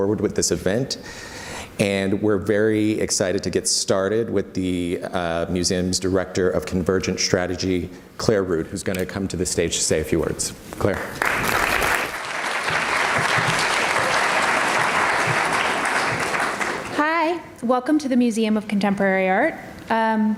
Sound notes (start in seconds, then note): 11.1 audience applauds